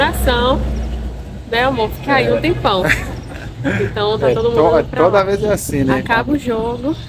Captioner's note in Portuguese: risadas